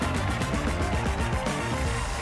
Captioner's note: cheers and applause